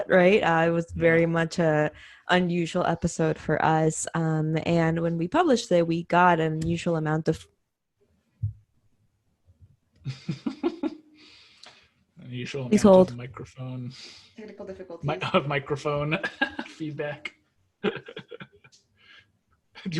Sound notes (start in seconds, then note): 10.0 laughs; 17.8 laughs